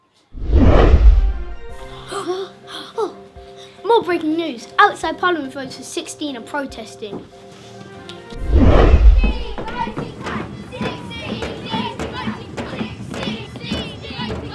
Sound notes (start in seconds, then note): 1.8 gasps; 9.8 sound of chanting